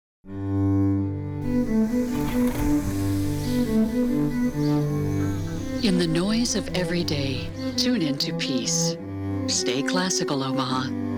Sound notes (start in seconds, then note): 0.2 soft classical music; 3.5 birds chirping